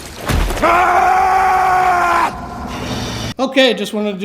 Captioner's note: screaming